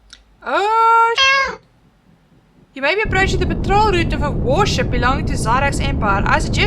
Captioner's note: meow